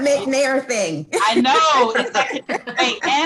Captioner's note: all laugh